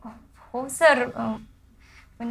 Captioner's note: stutters